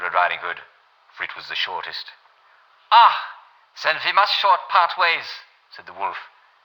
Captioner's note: German accent